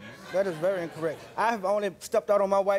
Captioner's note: audience laughs